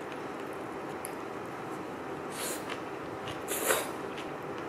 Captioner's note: slurp